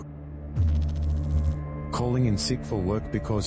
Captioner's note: electrical noise